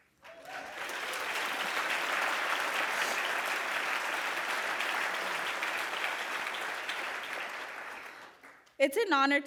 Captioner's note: cheers and applause